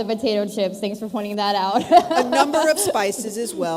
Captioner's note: laughs